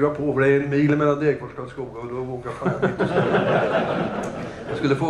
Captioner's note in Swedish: Skratt